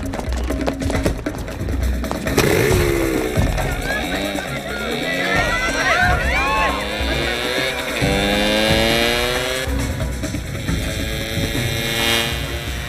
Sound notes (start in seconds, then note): 2.1 engine revving; 2.1 yelling; 5.1 engine revving; 5.4 siren blaring